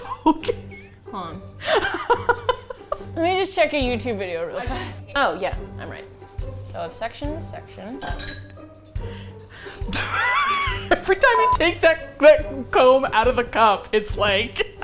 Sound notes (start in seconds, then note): 1.6 laughs; 8.0 clinks; 9.9 laughs